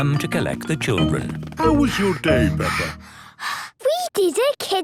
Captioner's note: Peppa panting